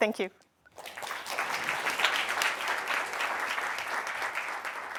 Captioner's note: applause